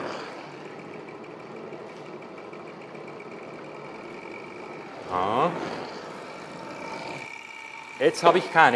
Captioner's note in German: leises Rattern des Stirlings ist zu hören